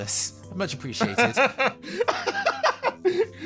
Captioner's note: laugh